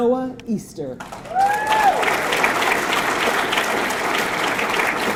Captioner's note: audience clapping